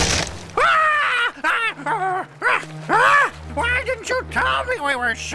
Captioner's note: Rupert screaming